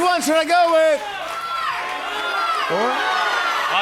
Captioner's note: audience shouting